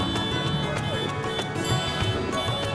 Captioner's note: cars honking